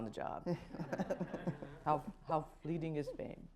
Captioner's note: laughter